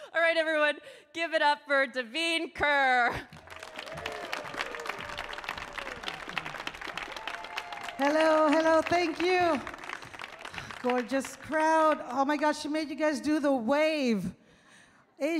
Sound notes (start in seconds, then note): 3.7 audience clapping